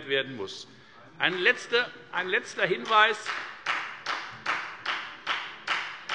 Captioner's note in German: Beifall bei der FDP